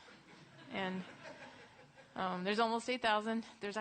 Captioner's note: laughter